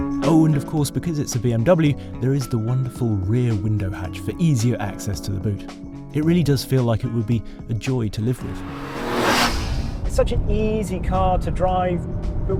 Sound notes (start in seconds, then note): 8.3 car zooming